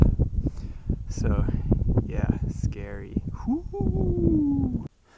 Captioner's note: ghost sounds